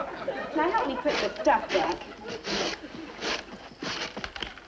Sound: Midge shuffles

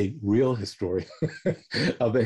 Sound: laughter

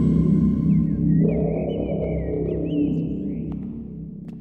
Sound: birds chirp faintly

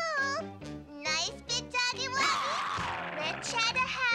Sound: growling

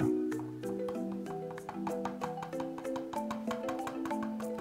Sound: brush taps

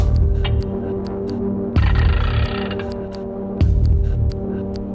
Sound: tool cranking

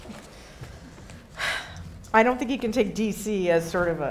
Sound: sighing

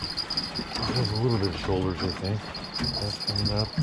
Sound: jangling

